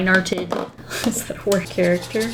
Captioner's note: laughs